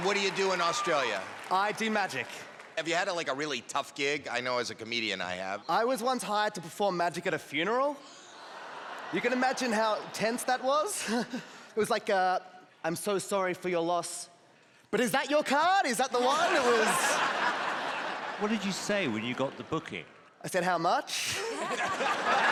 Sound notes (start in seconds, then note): 16.2 laughter; 21.3 laughter